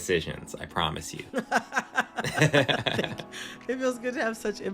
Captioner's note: laughter